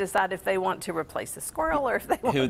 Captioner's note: laughs